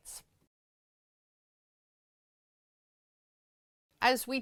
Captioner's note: no Sound Present